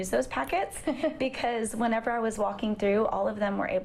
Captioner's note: laughter